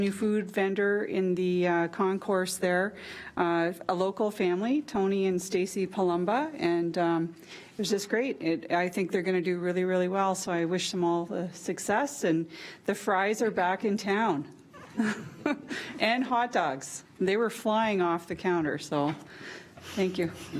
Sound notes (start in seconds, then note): 14.7 group chuckles